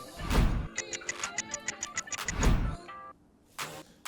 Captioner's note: clock ticks